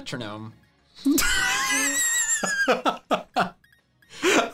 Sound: laughing

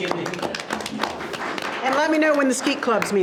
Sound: board members applaud

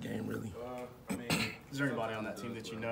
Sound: cough

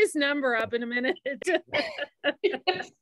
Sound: laughter

